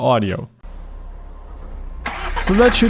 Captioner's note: motor roaring